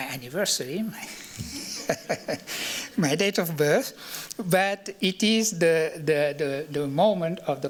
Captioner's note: laughs